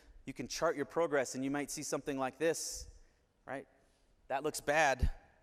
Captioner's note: none